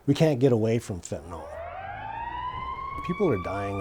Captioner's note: sirens wailing